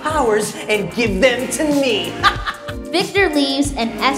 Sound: evil laugh

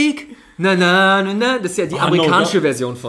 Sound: mumbles

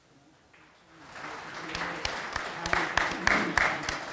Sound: audience applauding

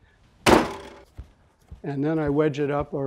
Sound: slams clay on table

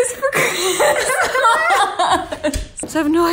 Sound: laughing

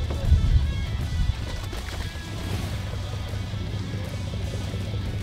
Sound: water splashes

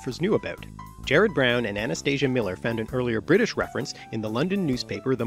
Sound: British

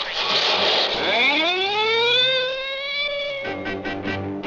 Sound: siren ringing; car engine running; upbeat instrumental music

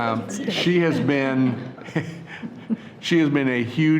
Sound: laughing

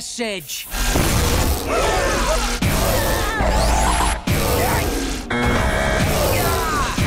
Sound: grunting

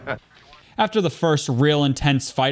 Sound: laughs

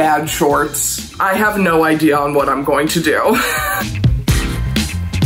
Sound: laughs; upbeat music continues

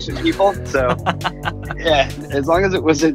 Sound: laughs

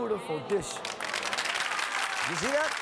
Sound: applause

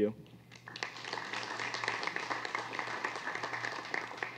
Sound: applause

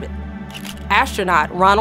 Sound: camera shutter clicks

